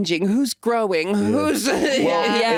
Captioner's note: chuckles